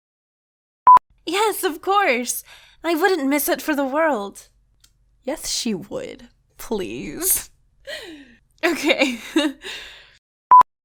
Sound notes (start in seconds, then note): 6.1 tch; 8.6 laughs